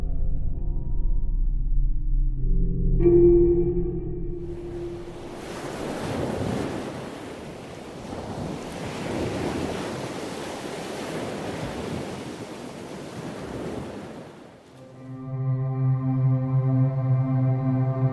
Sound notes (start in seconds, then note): 0.0 pensive music continues; 4.8 waves lapping; 14.8 pensive music